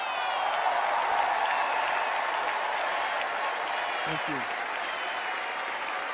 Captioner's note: cheers and applause